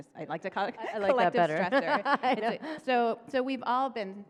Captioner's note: chuckles